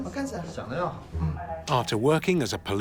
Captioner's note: speaking Tibetan